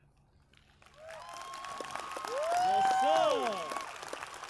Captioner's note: cheers, applause